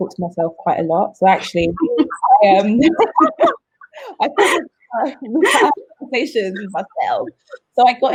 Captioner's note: all laugh